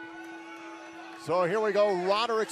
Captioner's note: bell ringing